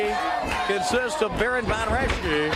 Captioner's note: crowd cheering